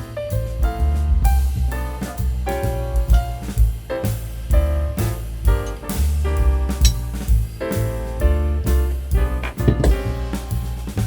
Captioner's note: hammer banging